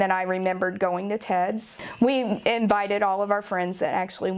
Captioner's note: none